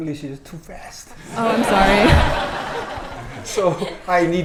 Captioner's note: audience laughing